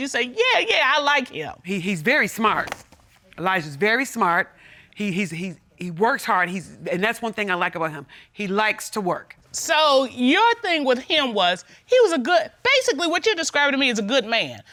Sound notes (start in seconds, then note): none